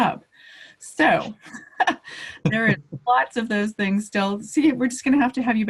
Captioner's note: laughs